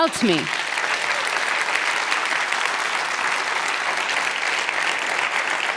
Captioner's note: audience applauds